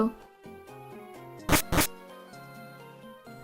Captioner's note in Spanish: Sonido de puertas en juegos de Pokémon